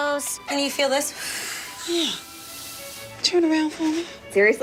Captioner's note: blowing